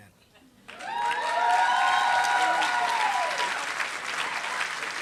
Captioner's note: applause